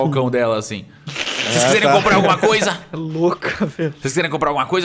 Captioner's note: laugh